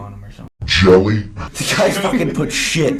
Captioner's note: pitch down